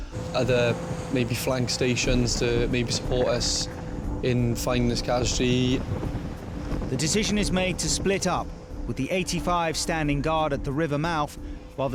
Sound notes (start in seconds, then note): 5.6 engine whirring; 5.6 suspenseful music